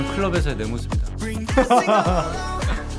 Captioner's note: laughing